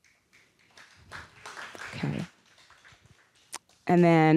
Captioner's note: audience applauding